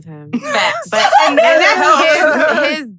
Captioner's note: laughs